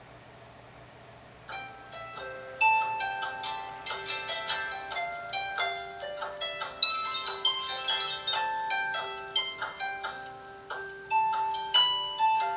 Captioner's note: phone alarm ringing